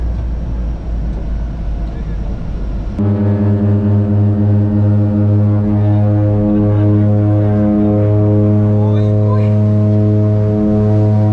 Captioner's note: propeller sound